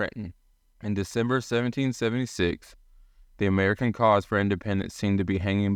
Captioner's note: voiceover